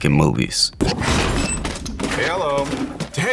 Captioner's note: desk crashes